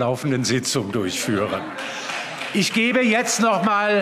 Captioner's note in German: Heiterkeit und Beifall